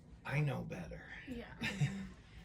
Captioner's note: laughs